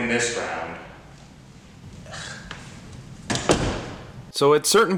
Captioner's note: shuts the door in frustration